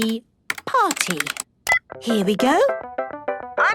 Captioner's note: beep